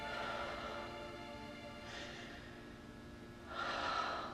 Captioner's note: Maggie exhaling